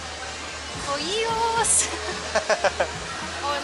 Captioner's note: laughter